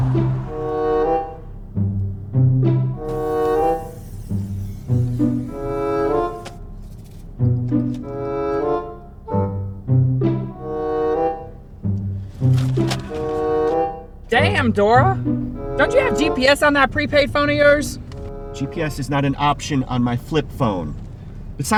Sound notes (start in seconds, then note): 0.2 quirky orchestral music; 2.9 gas hissing; 11.9 map rustles